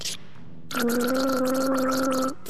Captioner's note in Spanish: ¡Gaaaaaargle!